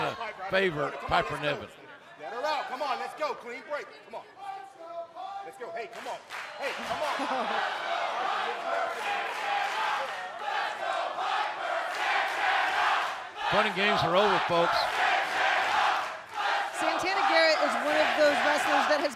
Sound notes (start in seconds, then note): 6.6 fans chanting